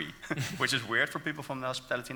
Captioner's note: laughing